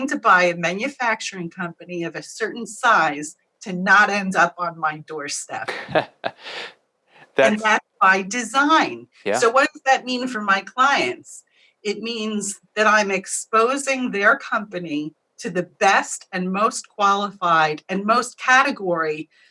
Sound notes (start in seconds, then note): 5.6 laugh